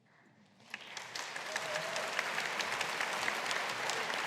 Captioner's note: audience applauding